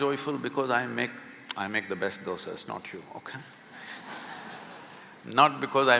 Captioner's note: laughs